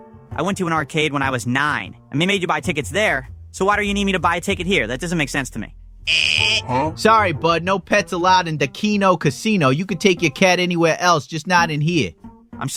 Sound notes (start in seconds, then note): 6.0 imitates siren noise